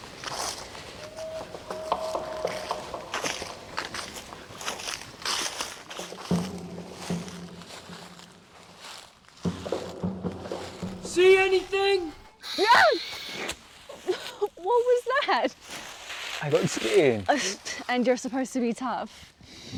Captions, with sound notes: See anything? [SCREAM] What was that? I got scared! And your suppose to be tough?